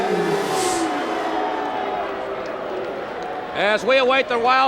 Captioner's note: audience jeers